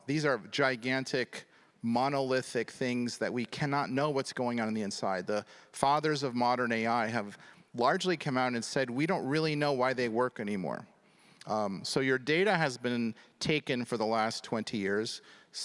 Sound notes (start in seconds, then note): none